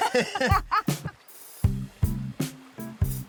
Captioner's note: both laugh